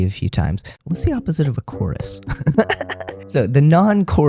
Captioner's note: laughter